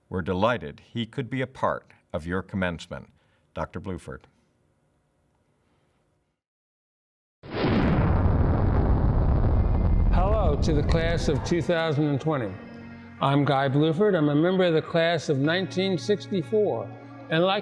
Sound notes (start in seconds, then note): 8.6 rocket engines roaring